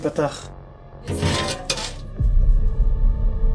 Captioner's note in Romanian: metalul scârțâie